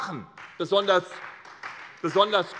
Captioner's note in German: Beifall SPD und vereinzelt Freie Demokraten